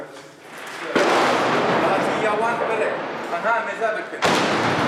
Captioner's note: gun fires; speaking in foreign language; gun fires